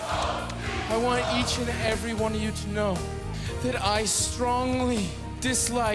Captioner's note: fans chanting